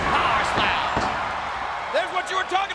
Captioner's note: audience cheers